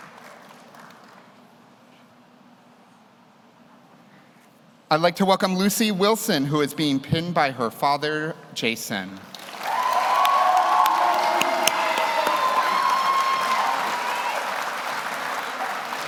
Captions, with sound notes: I'd like to welcome Lucy Wilson, who is being pinned by her father, Jason. (audience cheers) (audience applauds)